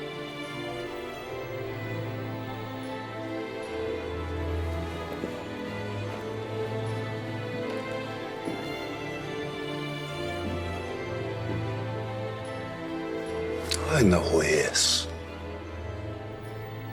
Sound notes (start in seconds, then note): none